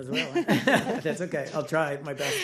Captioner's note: laughter